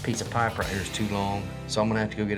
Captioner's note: none